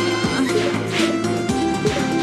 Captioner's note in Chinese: 吹口哨!